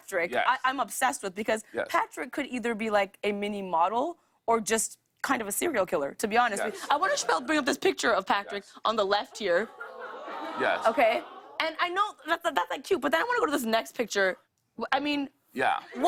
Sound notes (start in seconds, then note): 9.7 crowd "aww"s